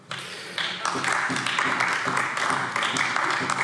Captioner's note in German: Beifall AfD